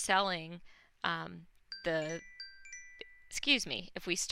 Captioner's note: cellphone rings